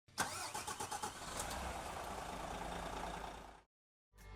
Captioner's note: car engine noise